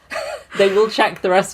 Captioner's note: laughs